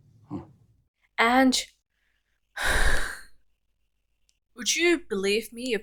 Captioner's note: sigh